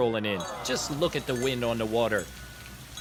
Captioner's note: disappointing sigh